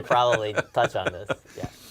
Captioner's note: laugh